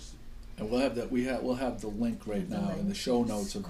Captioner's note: voiceover